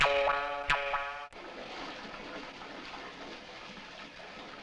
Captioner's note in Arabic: فقاقيع الماء